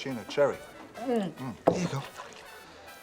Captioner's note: gulps